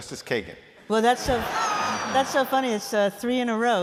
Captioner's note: laughter